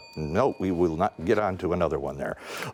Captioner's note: timer dings